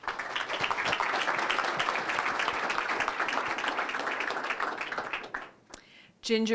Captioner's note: applause